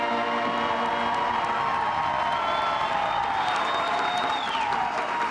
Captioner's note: audience cheering and applauding